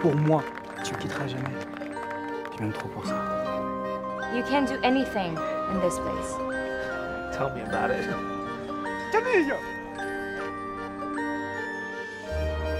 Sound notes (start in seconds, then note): 8.8 yelling